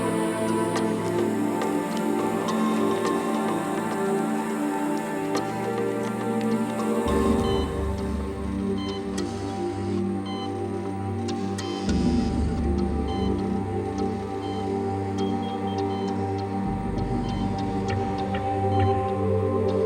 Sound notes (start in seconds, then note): 7.7 dramatic music; 7.7 machine beeping